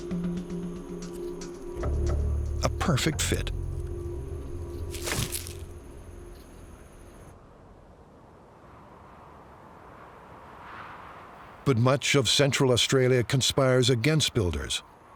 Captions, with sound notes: A perfect fit. [suspenseful music] [crunches] But much of central Australia conspires against builders.